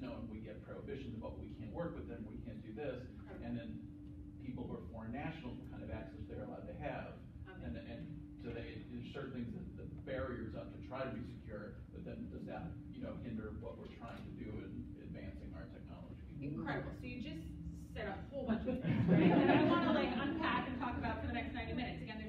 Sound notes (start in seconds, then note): 18.4 laughter